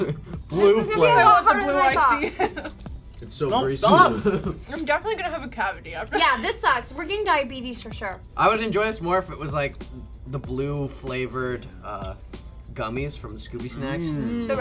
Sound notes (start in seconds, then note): 3.9 chuckles